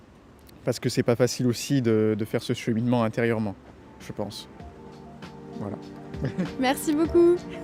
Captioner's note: laughter